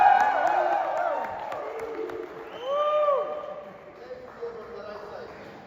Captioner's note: 박수 갈채